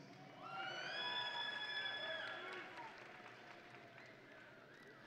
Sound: audience and graduates cheering

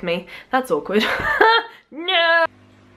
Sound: laughs

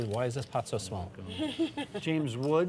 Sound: laughter

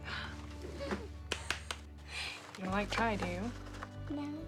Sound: claps

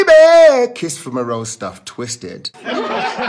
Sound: laughter

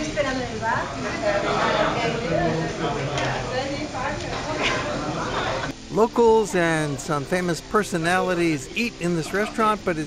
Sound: speaking in Spanish

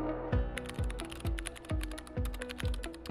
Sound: typing

